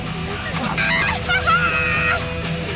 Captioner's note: laughter